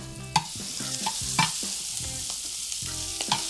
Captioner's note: pan sizzles